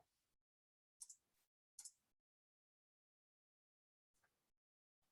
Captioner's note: mouse clicking continues